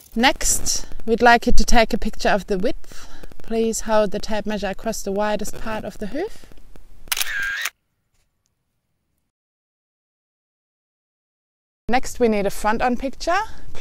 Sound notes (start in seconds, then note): 7.0 camera shutter